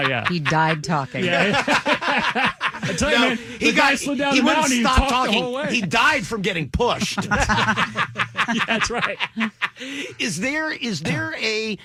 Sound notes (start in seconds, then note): 0.0 laughing